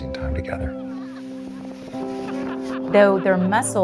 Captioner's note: family laughing